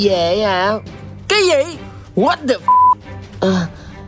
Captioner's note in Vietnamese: beep